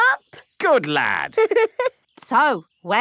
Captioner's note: giggling